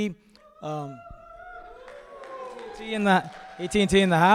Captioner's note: crowd cheering